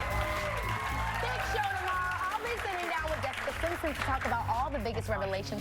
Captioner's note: cheers and applause